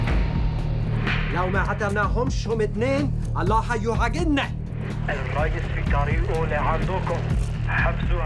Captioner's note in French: Parlant arabe